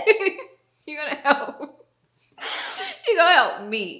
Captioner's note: giggles; giggles